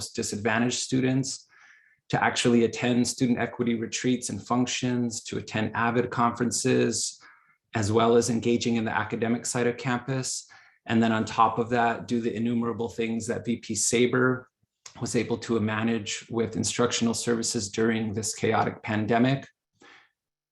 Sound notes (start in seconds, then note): none